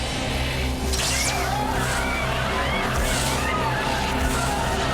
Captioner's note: many screams